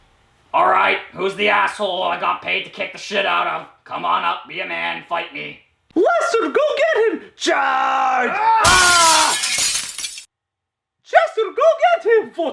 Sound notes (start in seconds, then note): 8.1 lester screams as glass breaks